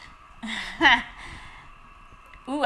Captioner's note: laugh